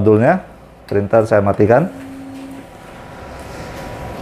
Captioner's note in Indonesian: suara mesin printer